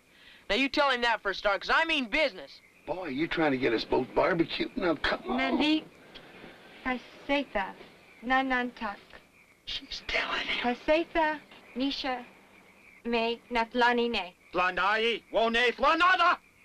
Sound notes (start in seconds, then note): 6.1 speaks in foreign language; 10.4 speaking in foreign language